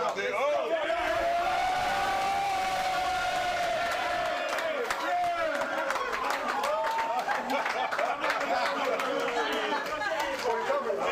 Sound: cheers and applause

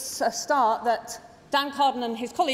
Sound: none

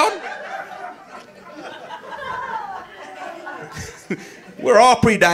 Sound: audience laughing

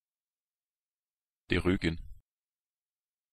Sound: fast Pronunciation

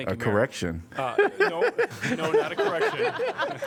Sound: laughter

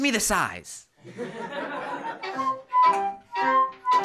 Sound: laughter

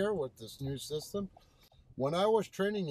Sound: turn signal clicks

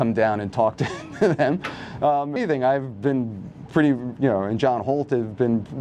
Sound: chuckles

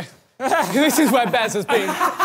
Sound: laughs

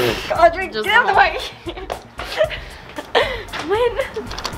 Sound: giggles

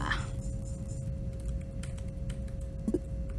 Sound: intense typing sound

